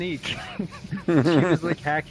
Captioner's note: laughing